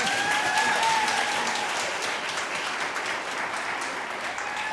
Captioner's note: audience applauding